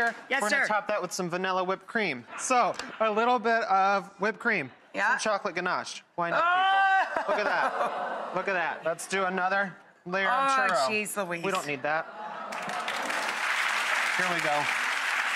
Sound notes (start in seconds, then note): 12.4 audience clapping